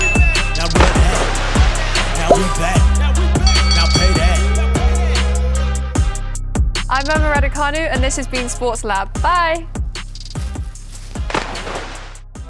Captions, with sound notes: (bell dings) (bell dings x3) I'm Emma Raducanu and this has been Sports Lab. Bye!